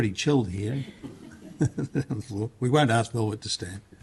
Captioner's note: laughter